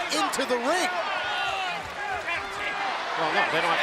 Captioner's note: applause